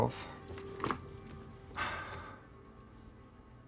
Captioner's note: sighs